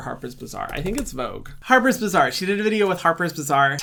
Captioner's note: keys typing